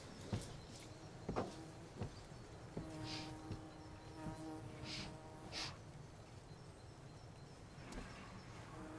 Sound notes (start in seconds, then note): 2.8 fly buzzing; 5.5 Claire sniffing